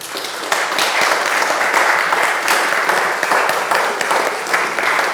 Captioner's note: audience applauding